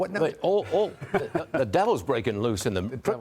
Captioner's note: laughter